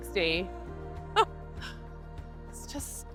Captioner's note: laughter